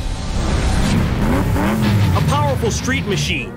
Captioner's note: engine revs